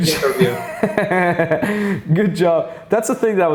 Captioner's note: laughs